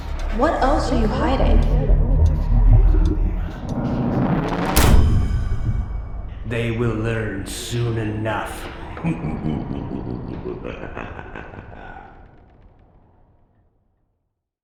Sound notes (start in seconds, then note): 3.2 ambience intensifies